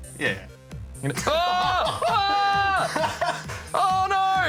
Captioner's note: laughs